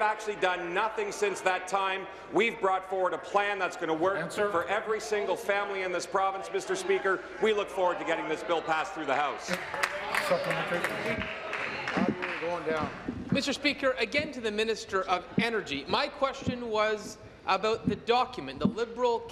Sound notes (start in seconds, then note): 13.3 applause